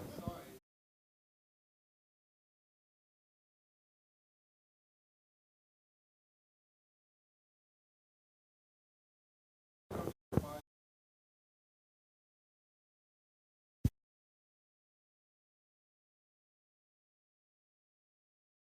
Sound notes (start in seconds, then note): 0.6 question off mic